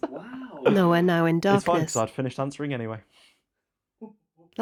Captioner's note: laughter